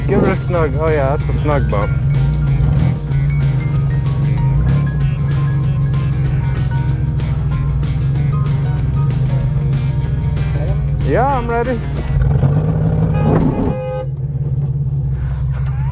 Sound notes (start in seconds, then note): 5.4 vehicle engine roaring